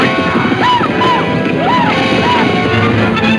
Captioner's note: cowboys shouting; dramatic music